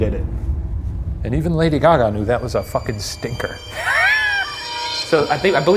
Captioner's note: laughs